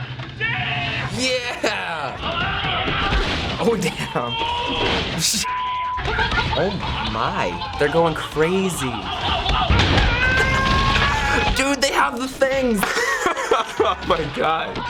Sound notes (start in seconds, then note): 2.2 man 3 yelling; 2.8 crash; 10.2 man 3 screaming; 13.1 laughs